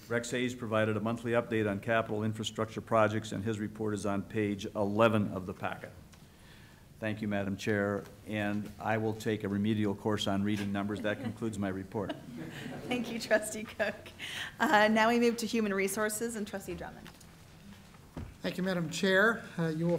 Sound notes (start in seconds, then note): 10.6 laughter